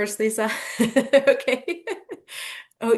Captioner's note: laughing